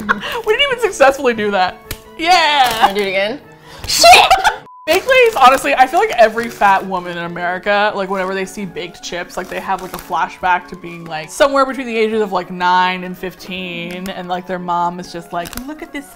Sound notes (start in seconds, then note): 3.9 laughs